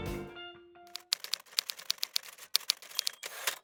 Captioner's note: old typewriter typing